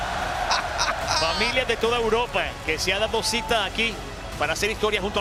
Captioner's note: laugh